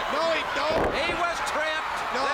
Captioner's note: crowd cheering